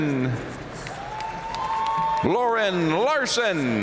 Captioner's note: audience cheering and applauding